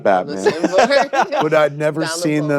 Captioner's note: laughing